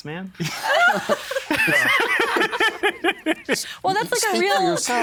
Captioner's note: all laughing